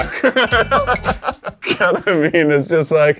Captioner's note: laughs